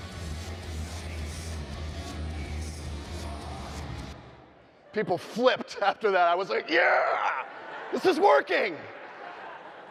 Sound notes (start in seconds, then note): 7.2 audience laughing